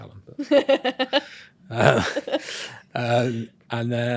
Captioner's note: right host laughs